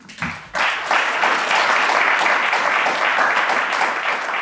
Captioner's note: audience applauding